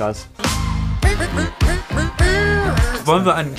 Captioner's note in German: imitiert Saxophon